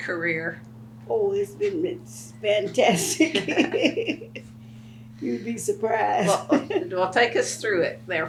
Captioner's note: laughs